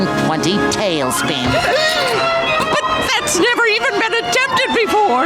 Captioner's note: gasping